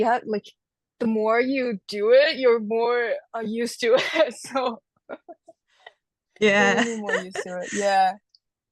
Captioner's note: laughs